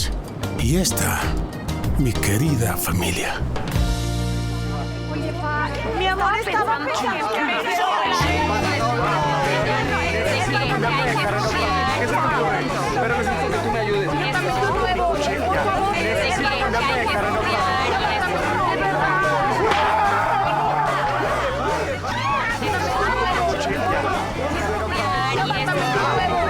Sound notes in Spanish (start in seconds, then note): 7.1 Hablan al unísono; 19.7 Grito; 26.3 Hablan al unísono